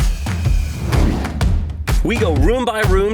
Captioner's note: saw whirring